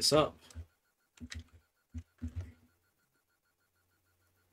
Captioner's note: typing